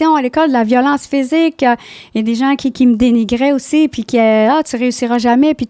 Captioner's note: in french